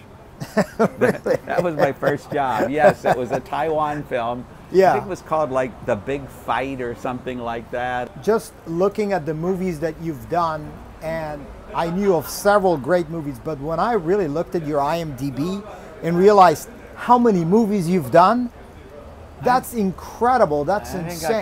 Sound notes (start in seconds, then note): 0.4 continues laughing; 0.4 laughing